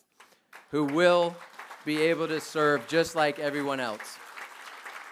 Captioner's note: applause